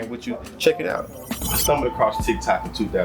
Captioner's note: birds Chirping